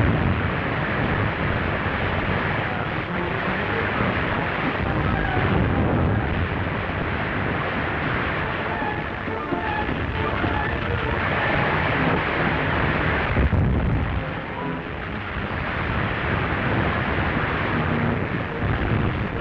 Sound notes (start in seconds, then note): 0.2 building crumbling; 5.7 fire burning and building collapsing